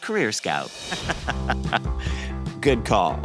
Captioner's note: laughs